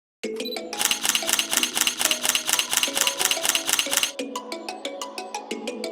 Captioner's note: camera shutter clicking; upbeat music